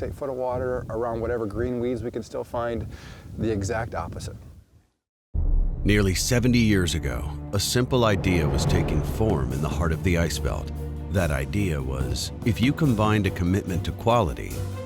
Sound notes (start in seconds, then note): 5.3 tense music; 6.1 voiceover